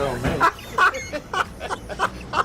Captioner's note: laughs